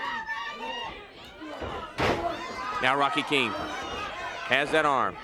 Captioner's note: crowd chatter